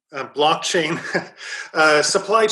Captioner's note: laughs